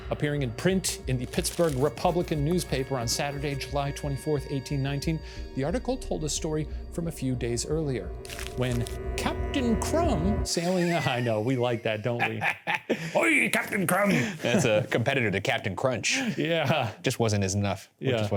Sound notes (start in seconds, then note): 12.3 laughs